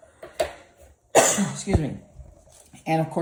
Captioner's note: cough